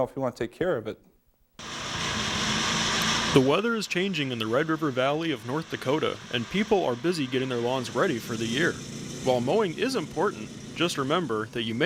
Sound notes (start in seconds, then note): 3.6 voiceover